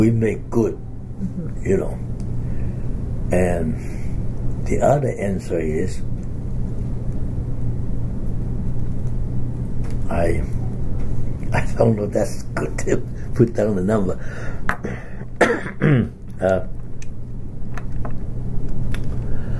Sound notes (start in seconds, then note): 10.7 laughs; 14.7 coughs